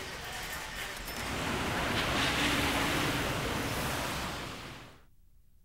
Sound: car driving away

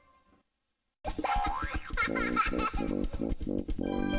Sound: kid laughing

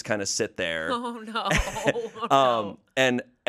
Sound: laughs

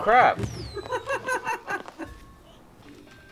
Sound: laughter

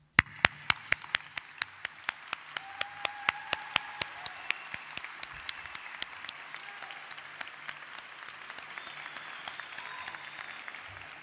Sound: applause

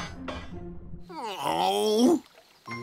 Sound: groaning

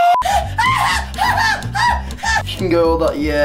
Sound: hOOOOOO; screeching like a fuckin monkey

